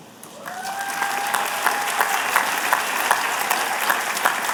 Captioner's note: applause